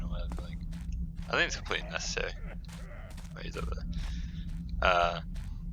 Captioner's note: guard hacks out a cough